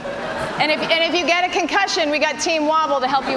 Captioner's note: laughter